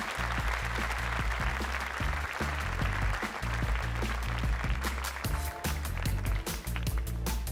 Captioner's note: applause